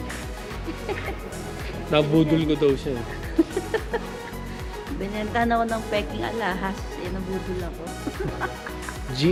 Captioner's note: laughing